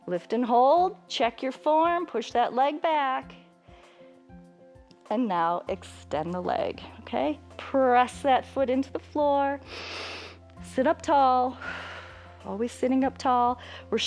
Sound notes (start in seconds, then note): 9.6 inhales; 9.6 exhales